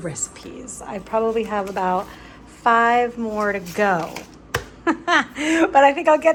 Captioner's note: laughs